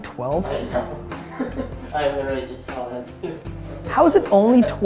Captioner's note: laughs